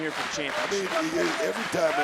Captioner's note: audience clapping